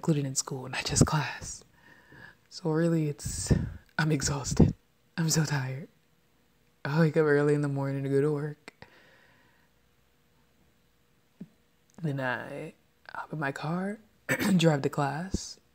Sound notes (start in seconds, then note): 14.3 clears throat